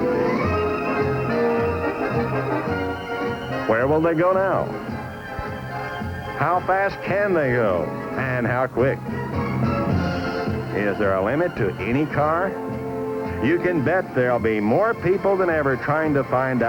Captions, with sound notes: hitting 207.33 miles per hour in 7.5 seconds. What a finish! (crowd cheering) Don Prudhomme, Top Fuel Eliminator at the Winter Nationals, and now at the Nationals is truly the Top Fuel Eliminator in the nation.